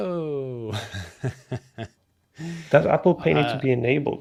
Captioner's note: laughs